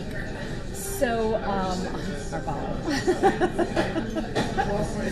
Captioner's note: laughter